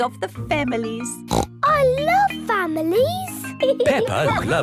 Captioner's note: snorts